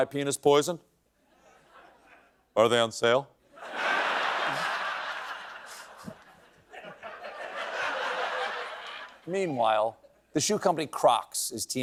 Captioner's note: laughter